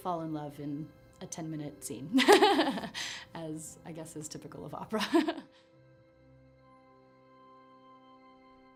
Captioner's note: laughter